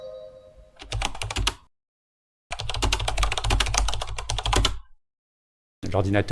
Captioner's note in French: bruit de clavier